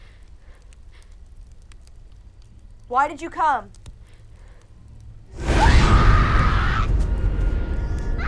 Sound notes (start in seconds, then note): 5.4 screaming